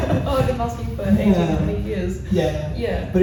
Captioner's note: laughs